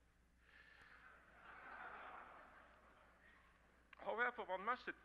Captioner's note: crowd laughing